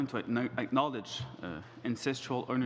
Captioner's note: speaking French